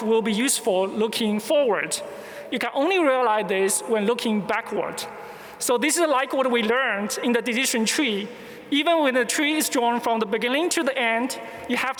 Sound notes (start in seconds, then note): none